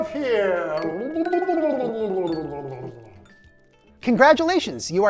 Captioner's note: gurgling